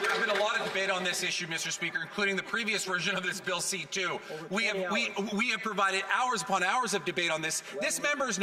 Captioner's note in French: voix de l'interprète